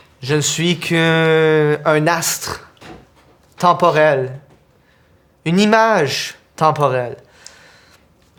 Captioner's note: none